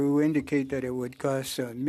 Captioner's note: speaking French